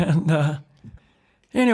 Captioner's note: laughter